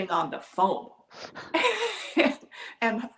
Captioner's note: laugh